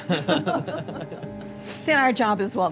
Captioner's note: laughter